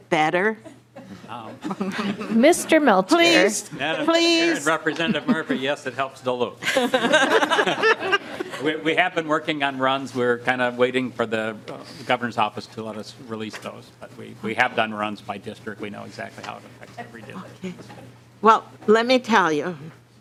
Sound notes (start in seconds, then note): 6.6 laughing